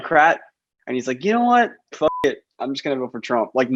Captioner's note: beep